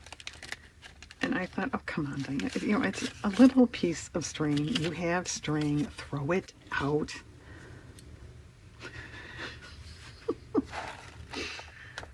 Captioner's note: laughs